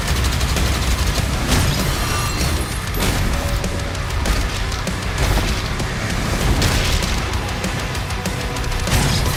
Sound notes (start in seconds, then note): 1.4 an echoing clang